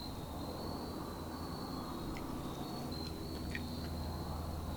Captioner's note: wind whistling; insects chirping